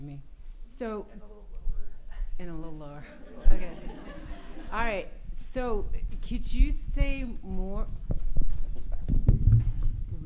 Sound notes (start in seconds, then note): 0.0 speaking spanish; 3.0 laughter